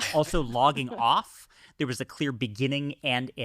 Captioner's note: chuckles